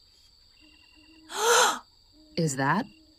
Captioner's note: sharp Gasp